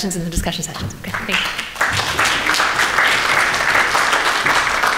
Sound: audience applauds

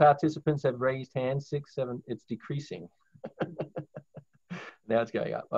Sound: laughs

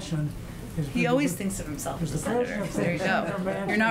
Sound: laughter

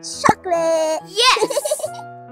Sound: laughs

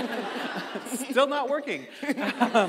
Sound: audience laughing

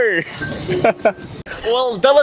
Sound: chuckles

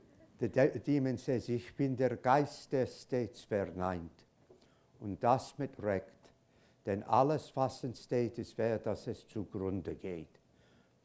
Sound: german

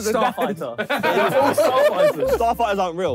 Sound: all laughing

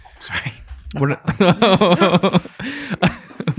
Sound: laughs

